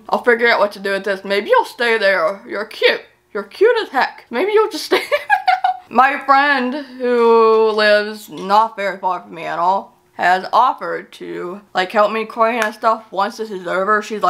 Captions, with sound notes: I'll figure out what to do with this. Maybe it'll stay there. You're cute, you're cute as heck. Maybe you'll just stay... (LAUGHS) My friend who lives not very far from me at all, has offered to like help me clean and stuff once this is over.